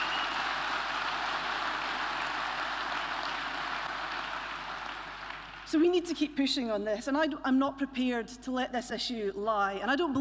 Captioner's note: applause